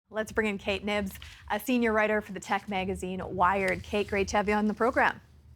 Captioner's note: scribbling